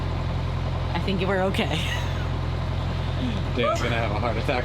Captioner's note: laughs